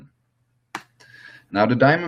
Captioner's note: clap